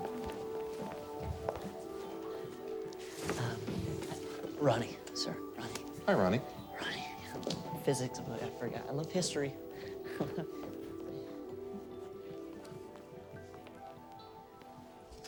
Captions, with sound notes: - Uh, Ronny, sir, Ronny. - Hi, Ronny. - Ronny, yeah. Physics book, I forgot. I love history. (laughs nervously)